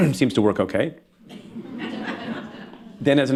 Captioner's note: laughter